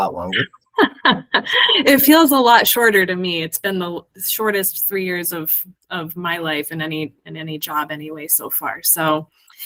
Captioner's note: laughs